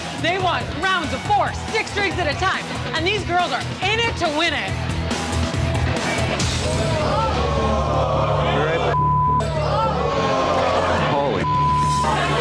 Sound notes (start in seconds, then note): 6.6 customers yelling; 8.9 beep; 11.4 beep